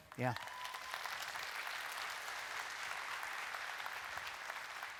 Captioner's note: audience clapping